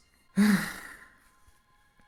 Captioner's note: sigh